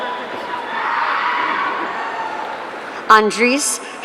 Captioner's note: audience cheering